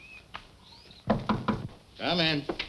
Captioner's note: Moku knocking